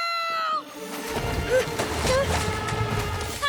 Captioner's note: breathing heavily